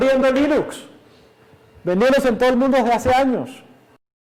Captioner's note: none